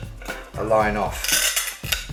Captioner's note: snapping